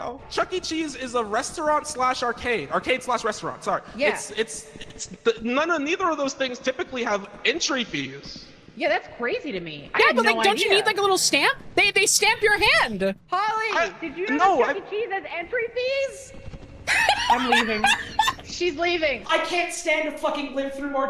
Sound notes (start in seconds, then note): 16.8 laughs